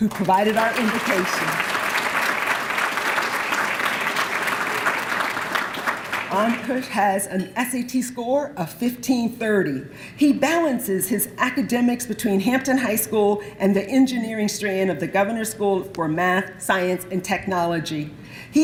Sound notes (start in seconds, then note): 2.7 applause